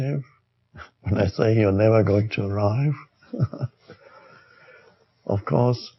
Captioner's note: laughs